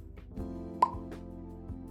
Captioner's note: pop